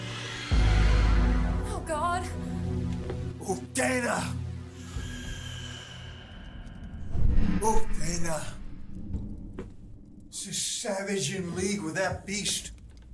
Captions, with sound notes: [Screeching roar outside] Oh, God. Uktena! [More roars outside] Uktena. Is this savage in league with that beast?